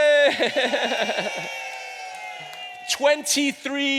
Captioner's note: audience cheers